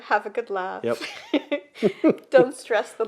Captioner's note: both laugh